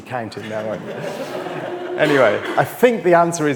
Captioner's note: audience laughs